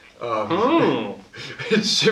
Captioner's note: makes noise of epiphany